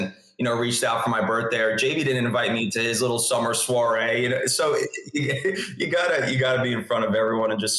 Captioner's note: laughs